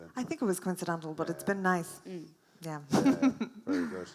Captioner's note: laughs